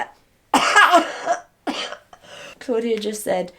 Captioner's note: coughing